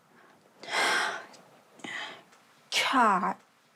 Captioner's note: sighs